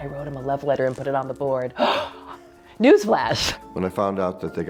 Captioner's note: whispering; gasp!